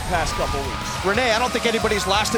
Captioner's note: crowd cheering